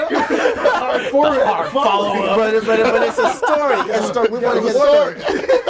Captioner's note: overlapping chatter and laughter